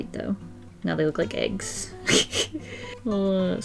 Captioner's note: giggles